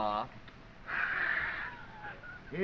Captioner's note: laughs